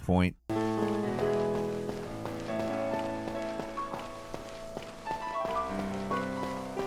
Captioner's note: peaceful music; footsteps thud